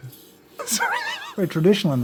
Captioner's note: laughs